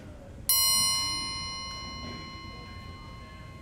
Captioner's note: ding